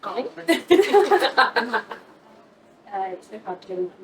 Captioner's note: laughter